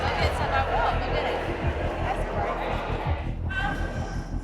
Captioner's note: chattering